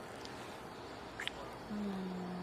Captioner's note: kissing